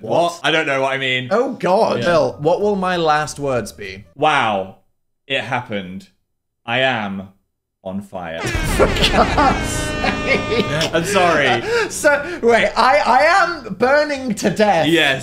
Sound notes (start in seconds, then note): 8.4 horn blaring; 8.4 both laughing